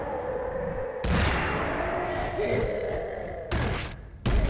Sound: continues roaring; grunts, growls

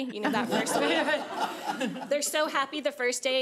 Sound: laughing

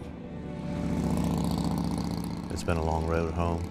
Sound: motorcycle engine rumbling

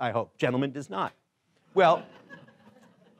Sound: laughing

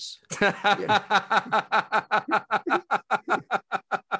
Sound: laughing

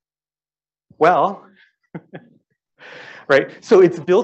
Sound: laughs

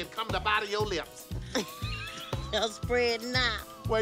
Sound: laughs

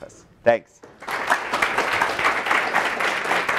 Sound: applause

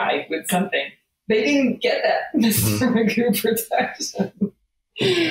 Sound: laughs

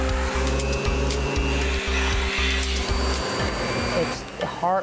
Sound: high-powered sucking of air; inquisitive instrumental music; motor humming

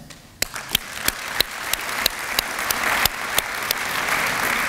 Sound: applause

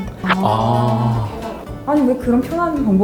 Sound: exclamation of realization

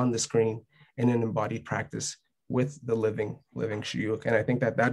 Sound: speaking arabic

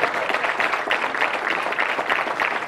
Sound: applause

